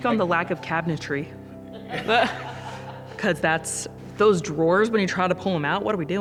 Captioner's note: laughing